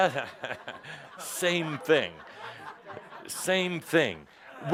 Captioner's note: laughter